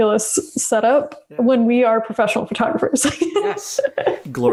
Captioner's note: laughs